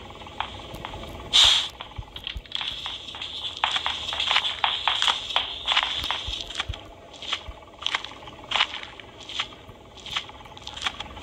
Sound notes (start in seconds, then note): 3.5 footsteps coming nearer